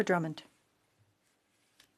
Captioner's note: speaking French